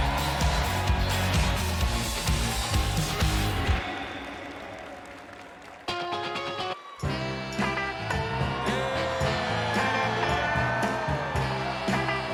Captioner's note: cheers and applause